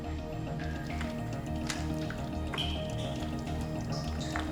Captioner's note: water dripping